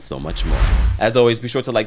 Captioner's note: whoosh